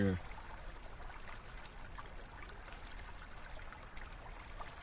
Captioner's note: water flowing